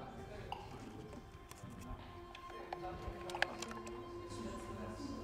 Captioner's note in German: Hintergrundgespräche